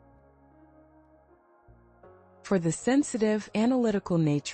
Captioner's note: pause